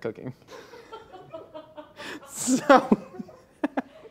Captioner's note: laughs